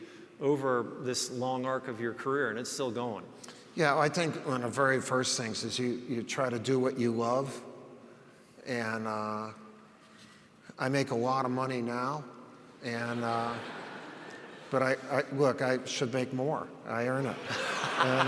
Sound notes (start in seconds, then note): 13.0 audience laughs